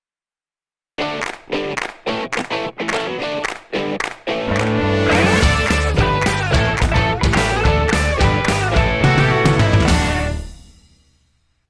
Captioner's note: claps